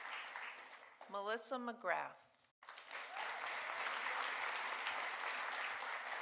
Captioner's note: audience applauding